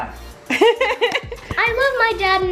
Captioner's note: laughs